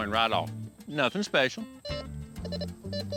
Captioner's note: beeps